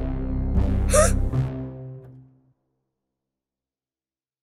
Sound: gasps

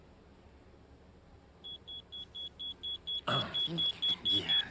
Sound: electronic beeping

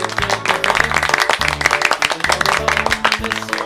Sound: clapping

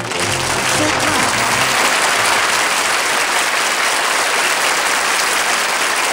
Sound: applause

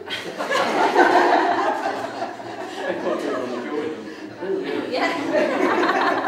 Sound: many laughing

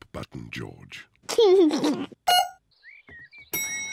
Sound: beeps; giggles; elevator bell dings

